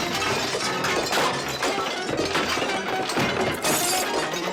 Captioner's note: crash